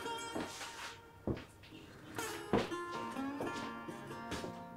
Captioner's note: footsteps thudding